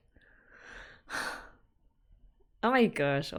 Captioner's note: sighs